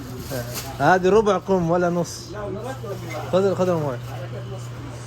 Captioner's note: Arabic